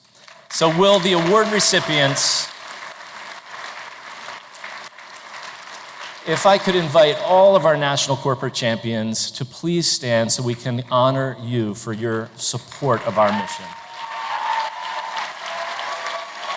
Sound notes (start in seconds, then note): 2.3 applause; 12.6 applause